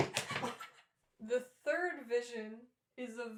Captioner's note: laughter